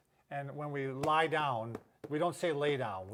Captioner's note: tapping